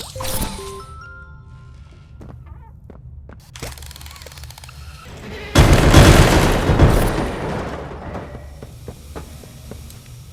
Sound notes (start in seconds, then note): 5.4 gunshots; 7.6 footsteps